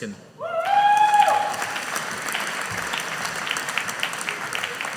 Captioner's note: audience applauding